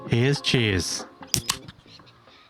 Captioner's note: tasty beverage opening